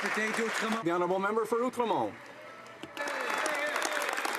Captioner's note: some Applause